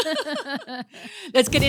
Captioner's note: laughing